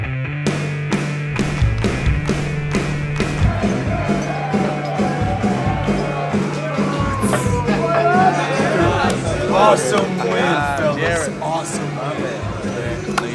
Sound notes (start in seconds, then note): 0.0 rhythmic hard rock music; 3.8 group shouting and chattering